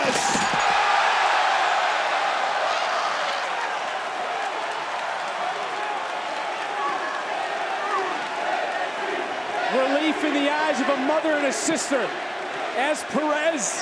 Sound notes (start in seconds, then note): 0.2 crowd cheering